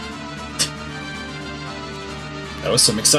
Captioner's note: scoffs